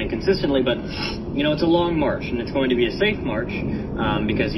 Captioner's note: sniffs